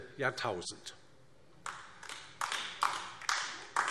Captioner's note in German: Beifall DIE LINKE